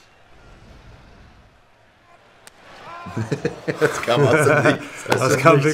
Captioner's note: lachen